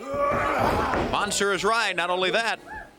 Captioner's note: crowd chatter